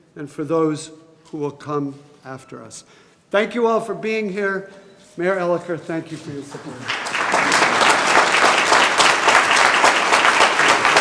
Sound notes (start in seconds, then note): 6.4 group applauding